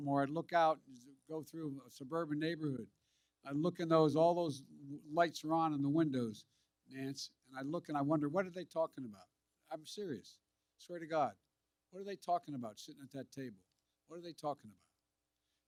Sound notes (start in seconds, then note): none